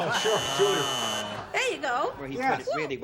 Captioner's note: buzzer